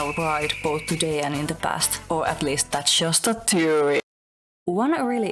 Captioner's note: Game theory voice